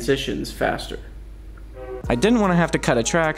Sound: train honking

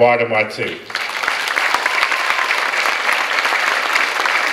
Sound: clapping

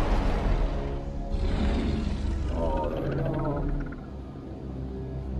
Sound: Behemoth growls

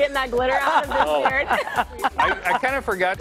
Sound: laughter

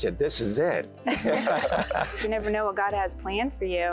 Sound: laughter

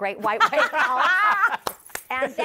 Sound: laughter

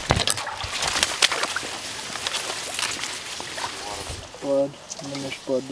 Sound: water sloshing

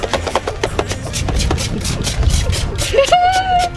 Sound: water squirting; laughter

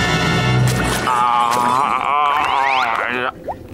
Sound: groaning

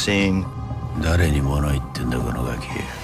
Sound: speaking in japanese

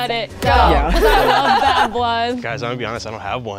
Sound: everybody laughs

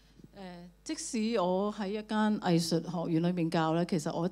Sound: Cantonese

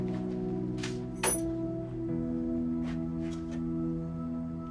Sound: keys dropping

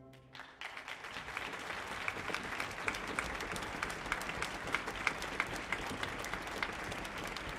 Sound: applause

